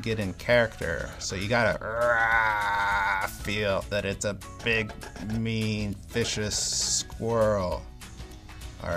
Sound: growl

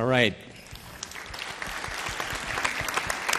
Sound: applause

